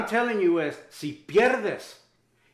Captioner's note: Spanish